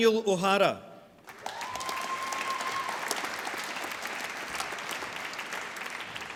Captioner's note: applause